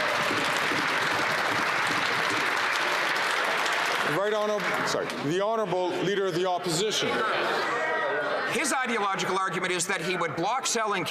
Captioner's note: some Applause